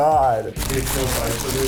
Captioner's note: rustling